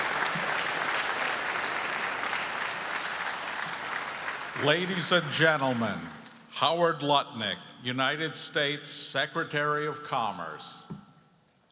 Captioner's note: applause